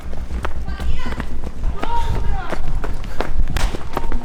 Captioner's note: shouting